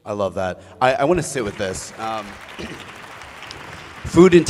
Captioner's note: applause